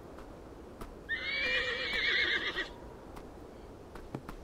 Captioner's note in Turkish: At kişneme sesi